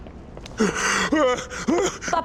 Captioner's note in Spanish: sollozos